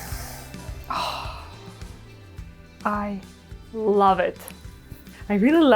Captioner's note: sighs